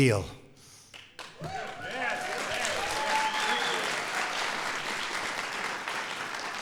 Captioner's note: applause